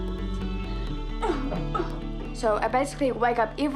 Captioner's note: coughs